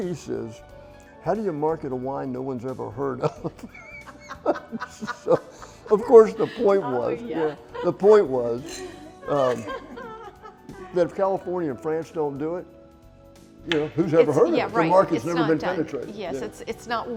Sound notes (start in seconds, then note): 5.0 all laughing; 8.5 glasses clinking; 10.5 all laughing